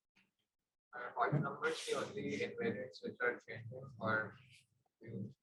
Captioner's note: attendee murmuring